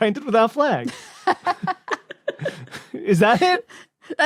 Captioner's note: guests giggling